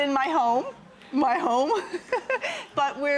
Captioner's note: laughing